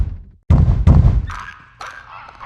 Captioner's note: knock